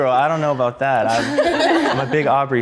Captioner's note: girls laughing